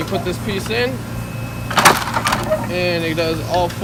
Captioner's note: machine clanking